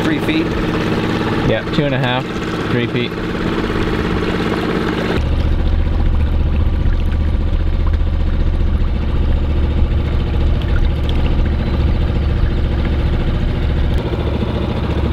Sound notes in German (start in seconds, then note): 5.5 niedriger Motor brummt; 11.6 schwaches Vogelgezwitscher